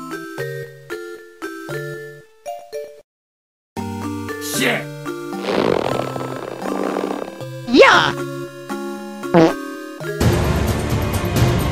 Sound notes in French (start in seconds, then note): 9.3 prout